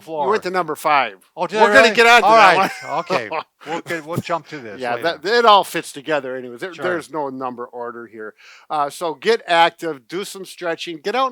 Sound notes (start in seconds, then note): 1.7 laughing